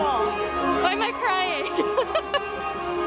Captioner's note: laughs